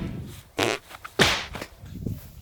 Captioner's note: smack